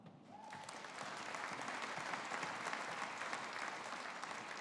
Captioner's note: audience applauding